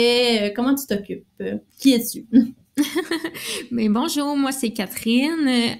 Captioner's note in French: Rires